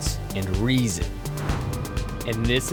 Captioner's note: swooshes